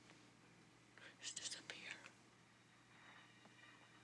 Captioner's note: whispering